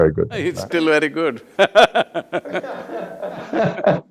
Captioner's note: both laugh